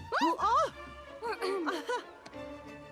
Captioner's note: Mrs. Bascom chuckles